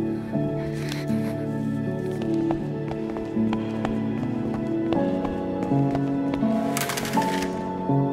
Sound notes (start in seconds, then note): 3.0 quick footsteps